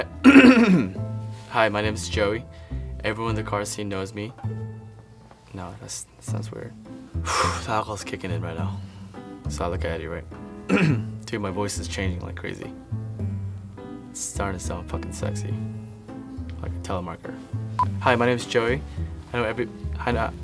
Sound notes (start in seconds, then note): 0.2 clears throat; 10.7 clears throat